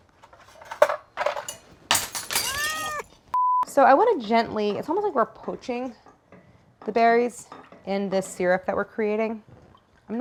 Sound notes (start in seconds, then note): 0.4 items shattering; 3.8 scene beeps